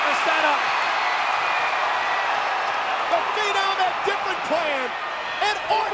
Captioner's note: applause